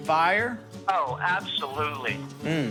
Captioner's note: on phone